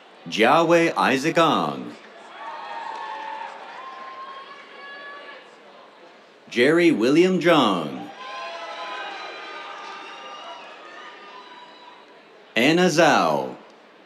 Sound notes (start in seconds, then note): 1.5 cheers, applause; 7.5 cheers